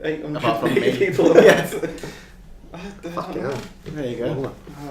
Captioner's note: laughing